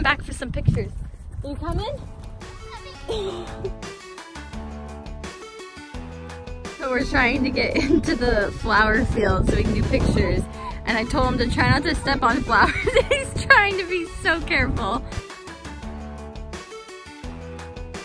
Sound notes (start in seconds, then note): 3.3 upbeat music; 12.9 laughs; 14.8 upbeat music